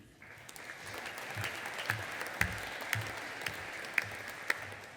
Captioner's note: audience applauding